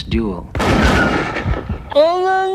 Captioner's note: gun blasting